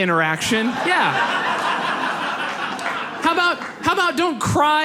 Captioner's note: audience laughs